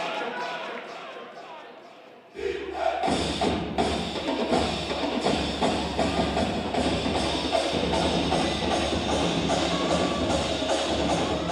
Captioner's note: cheers